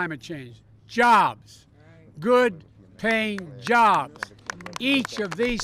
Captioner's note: applause